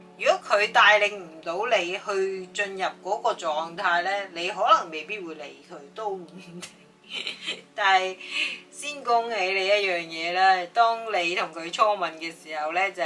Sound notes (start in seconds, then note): 7.0 laughs